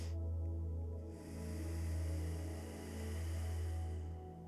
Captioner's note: inhales four sharp breaths through the nose; exhales deeply through the nose